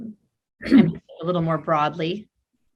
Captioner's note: clears throat